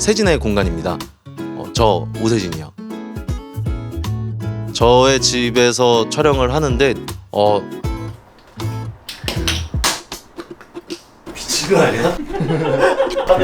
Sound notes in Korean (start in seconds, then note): 9.0 병뚜껑이 날아가 벽에 부딪히는 소리; 11.8 웃음